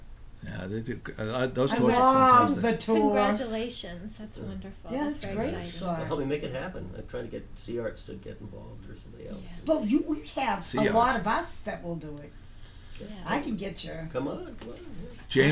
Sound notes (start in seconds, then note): 0.0 voiceover; 9.1 voiceover